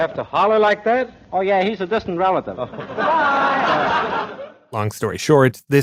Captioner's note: laughter